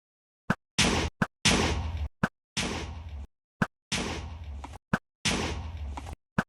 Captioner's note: arrows thwipping; explosions booming